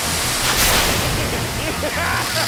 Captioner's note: maniacal laughter